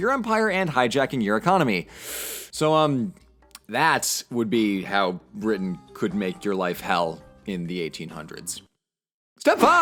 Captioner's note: breathes